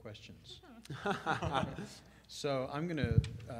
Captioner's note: laughter